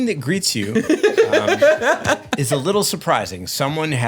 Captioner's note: laughs